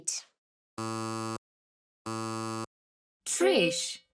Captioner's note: error sound buzzing